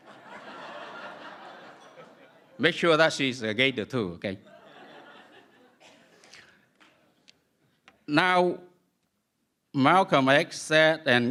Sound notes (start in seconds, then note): 0.0 laughter; 7.3 laughter